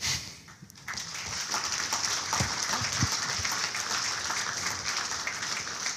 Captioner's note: audience applauding